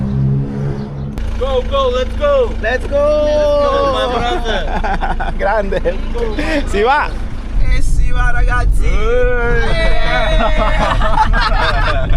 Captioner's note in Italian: risate